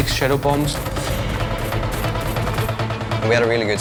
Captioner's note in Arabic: طحن ثلوج